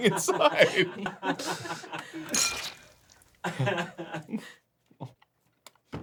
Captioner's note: everyone laughing